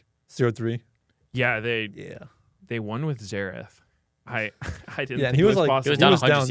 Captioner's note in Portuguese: risos